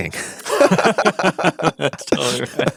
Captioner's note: both laughing